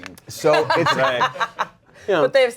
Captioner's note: laughs